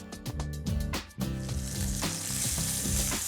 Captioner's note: sizzling